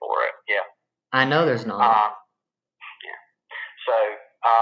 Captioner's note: on phone